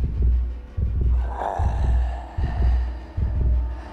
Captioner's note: snarling